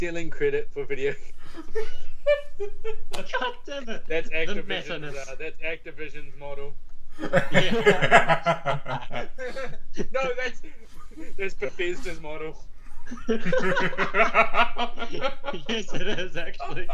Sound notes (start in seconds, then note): 1.0 laughing; 7.2 more laughing